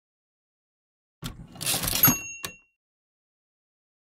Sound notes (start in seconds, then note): 1.3 sound of typewriter